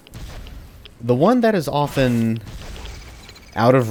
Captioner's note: fwoosh